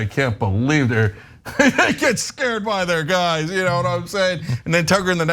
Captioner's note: laugh